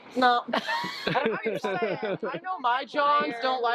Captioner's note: group laughs